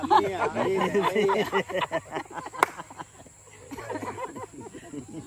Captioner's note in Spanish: risas